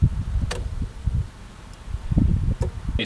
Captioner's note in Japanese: クリック音